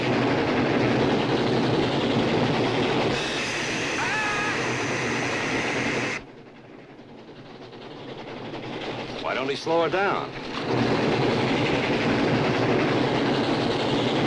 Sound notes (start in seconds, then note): 3.1 screaming; 3.5 steam hissing